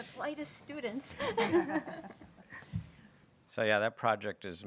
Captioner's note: everybody laughing